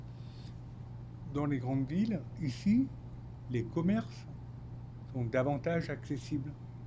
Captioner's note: speaking French